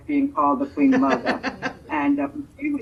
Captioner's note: laughing